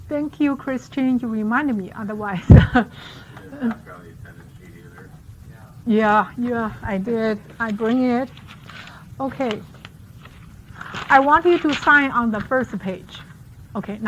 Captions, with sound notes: Thank you Christian, you reminded me otherwise. (laughs) (faintly speaking) Yeah, yeah, I did. I bring it. Okay. I want you to sign on the first page.